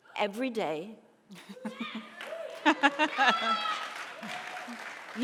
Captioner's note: audience cheering